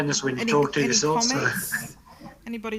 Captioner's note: laughs